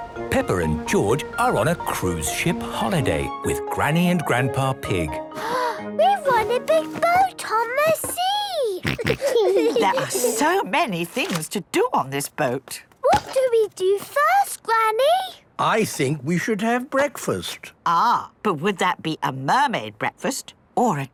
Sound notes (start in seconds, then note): 5.4 gasps; 8.8 snorts, giggles